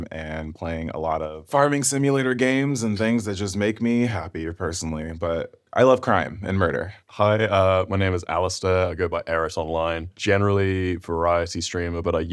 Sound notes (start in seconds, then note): none